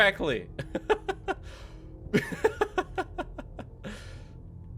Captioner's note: laughs